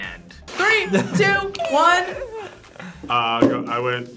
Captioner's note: both laugh